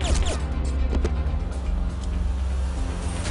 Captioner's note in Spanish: Disparos